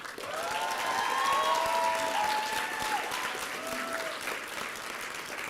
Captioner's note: applause and cheering